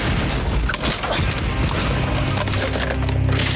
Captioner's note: wood crashing